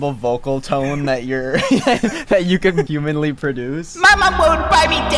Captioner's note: laughs